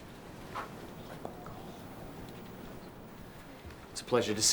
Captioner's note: whispers